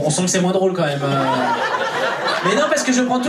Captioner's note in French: rires public